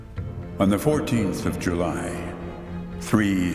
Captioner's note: disembodied voice